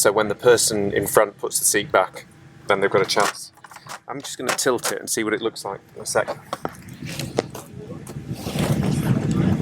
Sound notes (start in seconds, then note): 2.9 fold-out tray clicks